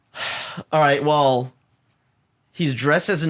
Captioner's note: sighs